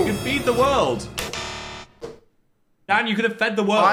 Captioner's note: buzzer beeps